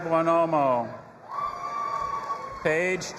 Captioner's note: audience applauding and cheering